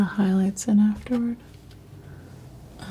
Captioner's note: scratching